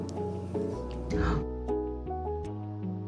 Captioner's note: gasps